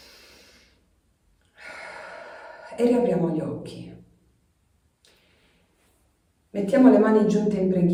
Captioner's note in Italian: sospiri